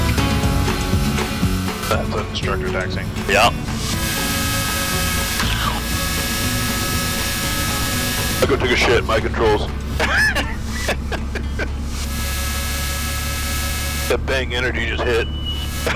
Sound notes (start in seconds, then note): 10.2 laughs